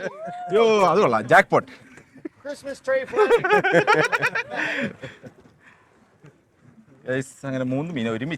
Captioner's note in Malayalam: പൊട്ടിച്ചിരി